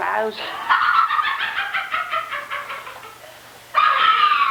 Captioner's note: laughter